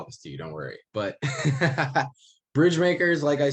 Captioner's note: laughs